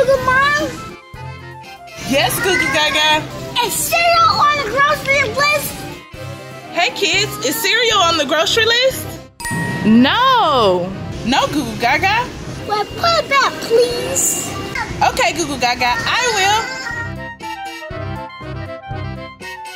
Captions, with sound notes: - Goo Goo Mom. - Yes Goo Goo Gaga? - Is cereal on the grocery list? - Hey kids, is cereal on the grocery list? (chiming) No. No Goo Goo Gaga. - Well put it back, please. - Okay Goo Goo Gaga, I will. (upbeat music)